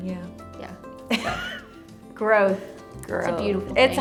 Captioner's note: laughs